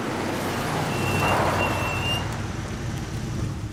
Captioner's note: brakes sqealing